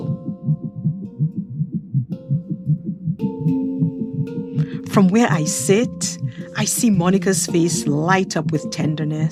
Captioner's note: heartbeat pulses